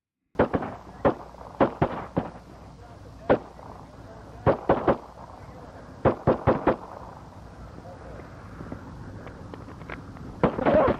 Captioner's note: gunshots